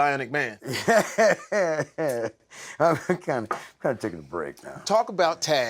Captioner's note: laughs